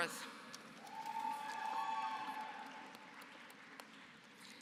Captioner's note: applause